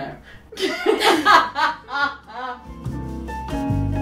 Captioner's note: laughs; light jazz music